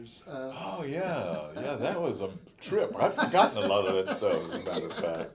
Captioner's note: laughs